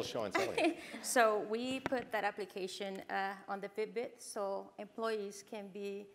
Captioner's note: laugh